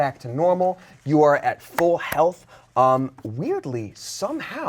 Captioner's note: hands clap